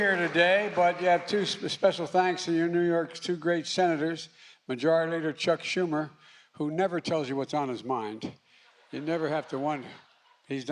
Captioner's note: applause